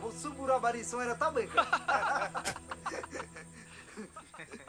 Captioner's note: laughter